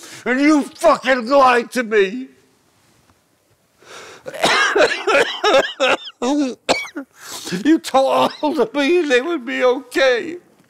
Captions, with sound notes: and you fucking lied to me! [coughing] you told me they would be okay.